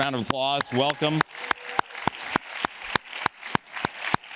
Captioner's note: audience claps